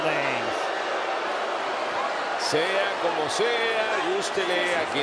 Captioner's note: applause